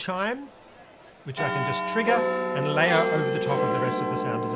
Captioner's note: Big Ben Chimes ring